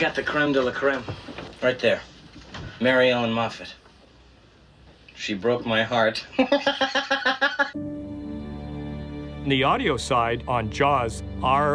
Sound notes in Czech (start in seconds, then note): 6.3 se směje; 7.7 napjatá hudba